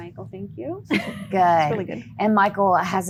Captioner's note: laughing